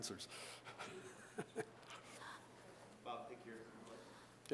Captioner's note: chuckling